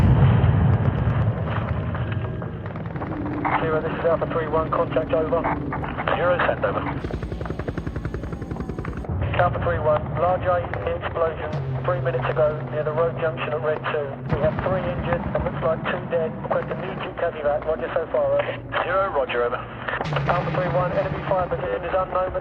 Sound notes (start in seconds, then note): 0.0 explosion booming; 7.6 helicopter whirring